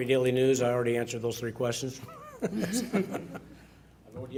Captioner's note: laughs